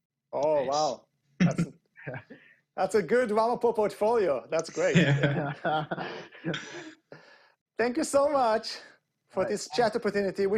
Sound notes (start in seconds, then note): 4.7 laughs